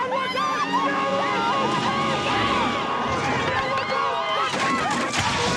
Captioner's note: screaming